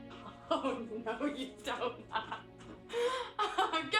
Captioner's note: laughs